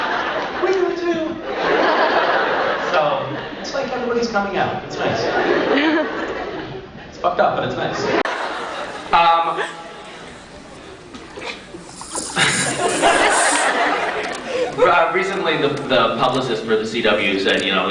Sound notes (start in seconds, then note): 5.2 crowd laughs; 11.3 Misha laughs